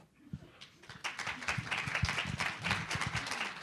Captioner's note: applause